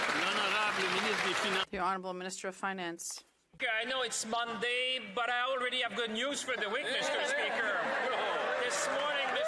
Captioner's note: some Applause